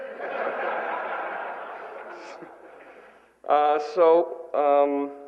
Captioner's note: laughter